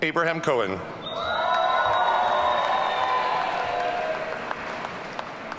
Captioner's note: audience cheering